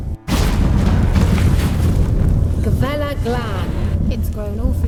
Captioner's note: portal rumbles